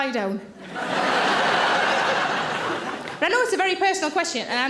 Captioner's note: audience laughing